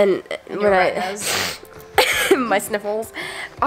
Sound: sniffles

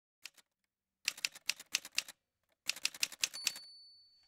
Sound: typewriter sounds

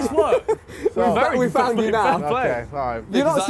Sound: everyone mumbling

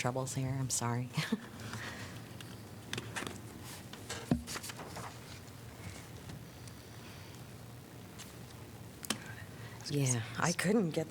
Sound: laughter

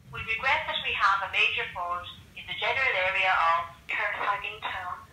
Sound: phone on speakerphone

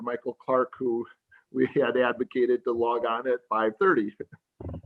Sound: laughs

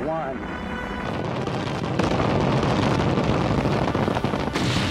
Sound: explodes

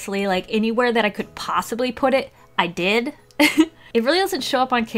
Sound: laughs

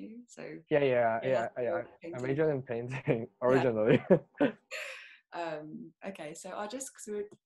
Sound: laughs

